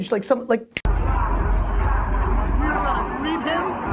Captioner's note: fingers snapping; party music